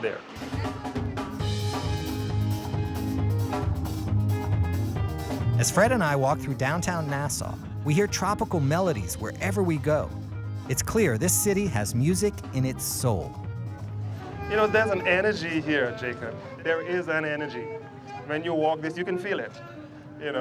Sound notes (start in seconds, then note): 0.3 tropical music; 5.7 voiceover